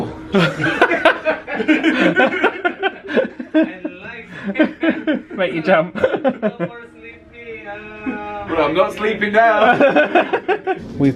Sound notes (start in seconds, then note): 0.3 laugh